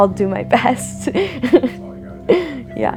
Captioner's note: laughing